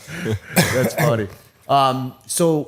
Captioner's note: laughter